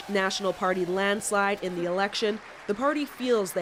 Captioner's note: cheers and Applause